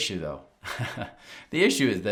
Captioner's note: host chuckling